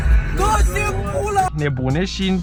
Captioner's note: excitement sound